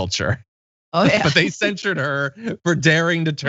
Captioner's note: laugh